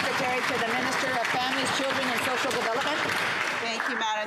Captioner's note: some Applause